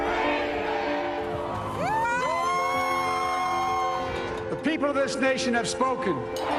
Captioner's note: cheers and Applause